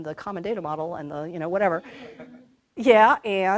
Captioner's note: laughter